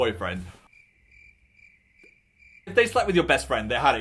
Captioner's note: crickets chirp